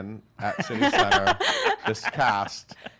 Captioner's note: laughing